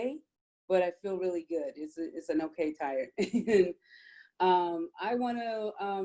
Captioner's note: chuckles